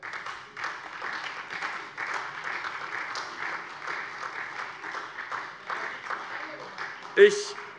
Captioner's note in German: Beifall SPD